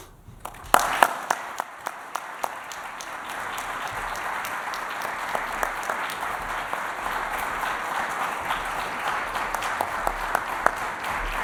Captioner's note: applause